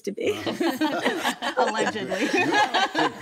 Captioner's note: group laughs